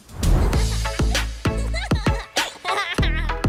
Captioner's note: laughing